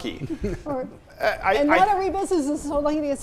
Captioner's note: chuckles